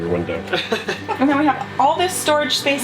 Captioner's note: laughing